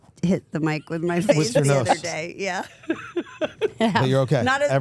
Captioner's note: laughs